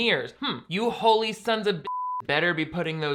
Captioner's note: beep